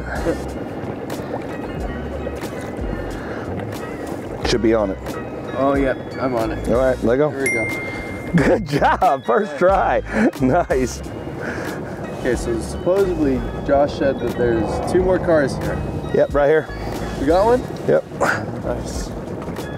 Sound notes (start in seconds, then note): 0.3 engine droning; 0.3 upbeat music continues; 7.4 bell ringing; 18.7 upbeat music continues; 19.5 engine droning